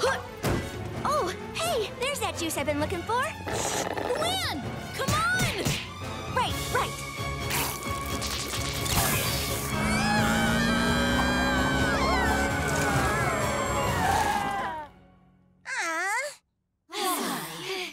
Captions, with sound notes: Oh! Hey, there's that juice I've been looking for! Luann! Come on! Right, right. [screaming] Uh. [sighing]